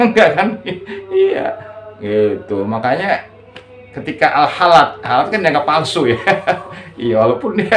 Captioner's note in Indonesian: tertawa